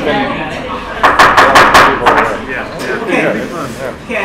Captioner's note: gavel pounding